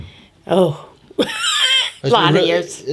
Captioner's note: laughs